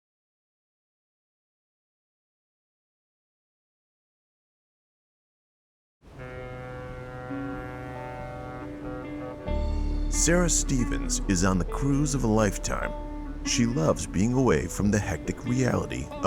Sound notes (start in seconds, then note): 6.0 gentle music; 6.0 horn blaring